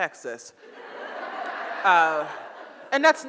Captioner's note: audience laughs